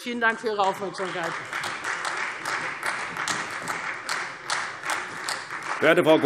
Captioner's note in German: Beifall Freie Demokraten und vereinzelt CDU